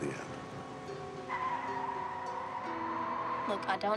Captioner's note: tires squealing